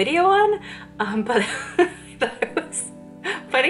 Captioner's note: laughs